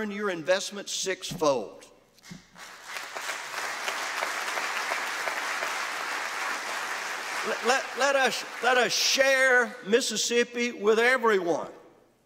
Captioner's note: applause